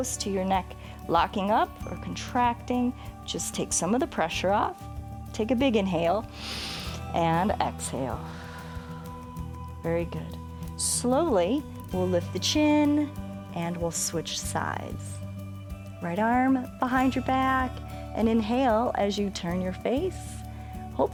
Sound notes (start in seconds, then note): 6.3 inhales; 6.3 exhales